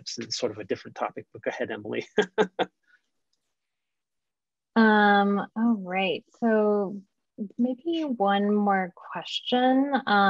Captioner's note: laughter